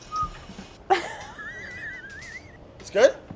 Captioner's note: laughing